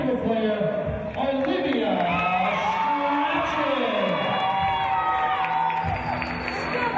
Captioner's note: cheers and applause